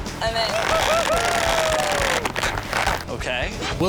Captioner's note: cheering